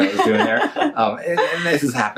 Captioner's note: laughs